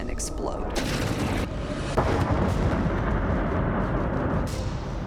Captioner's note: explosion echoes